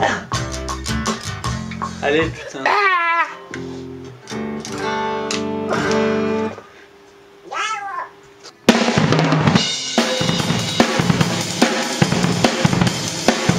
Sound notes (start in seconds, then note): 2.7 weird scream; 7.3 noise from the bassist